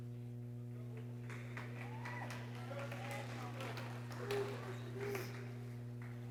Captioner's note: people cheering and exclaiming